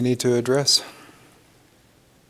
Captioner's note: silence